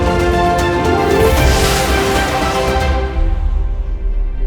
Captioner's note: car whooshes